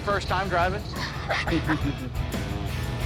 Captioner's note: both laugh